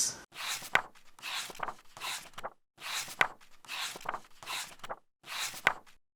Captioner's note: pages turning